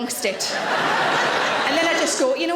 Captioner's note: audience laughing